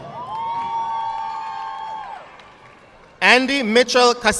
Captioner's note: audience clapping